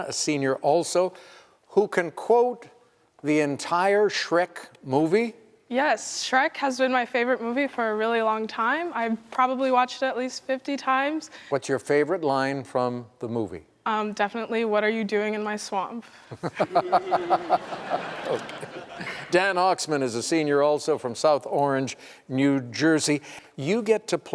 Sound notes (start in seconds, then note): 16.3 laughter; 16.3 chuckles